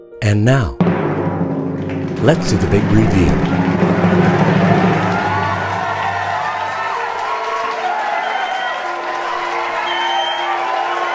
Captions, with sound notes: - And now (drum roll), let's do the big reveal. (audience applauding)